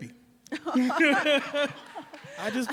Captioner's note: all laugh